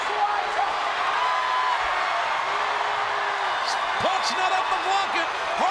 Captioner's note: crowd cheers